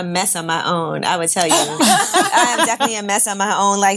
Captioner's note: laughing